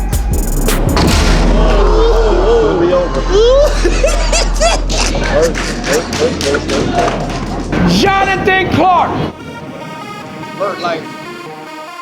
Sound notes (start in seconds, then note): 4.1 judge laughing